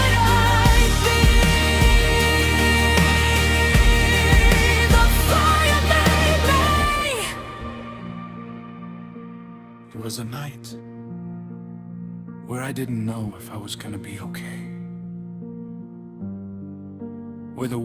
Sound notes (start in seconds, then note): 10.3 spoken, like testimony